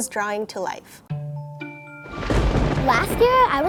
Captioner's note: eerie instrumental music; lighting booms